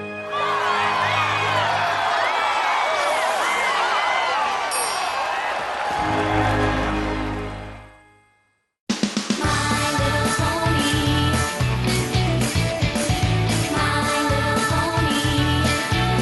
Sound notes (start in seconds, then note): 0.0 cheers; 4.7 ding